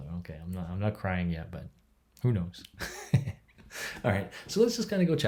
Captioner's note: chuckles